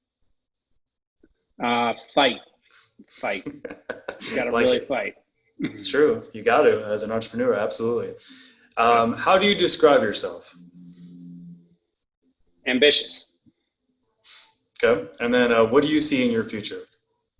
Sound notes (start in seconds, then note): 3.2 laughs